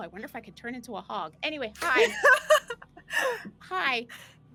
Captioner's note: laughs